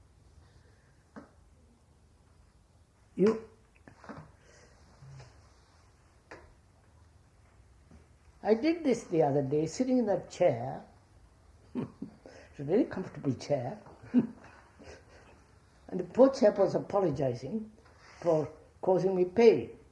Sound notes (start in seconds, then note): 15.3 laughs